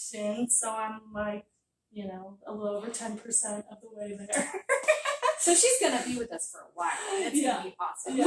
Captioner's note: laughter